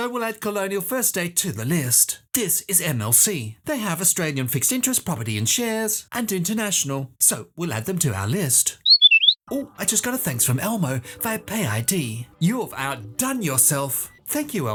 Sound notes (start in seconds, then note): 8.8 whistle